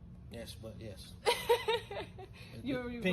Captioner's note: laughs